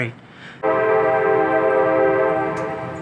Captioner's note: train whistle Blows